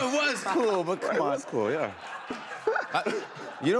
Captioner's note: laughter